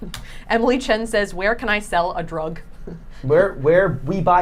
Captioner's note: laughing